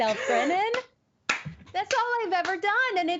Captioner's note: clapping